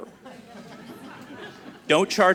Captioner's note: audience laughing